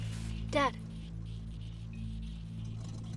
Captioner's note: motor sputters